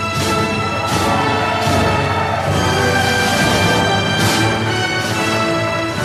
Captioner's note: applause